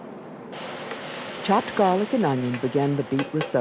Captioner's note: voiceover